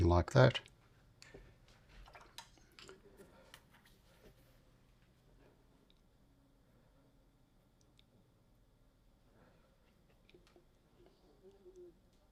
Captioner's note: silence